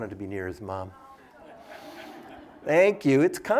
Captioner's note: laughter